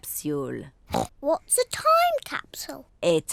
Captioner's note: oinks